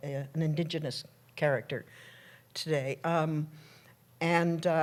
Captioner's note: none